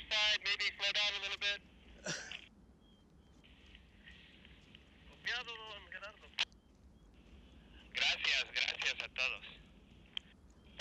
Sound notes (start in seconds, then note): 4.2 man on Radio